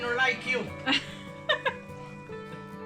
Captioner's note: laughing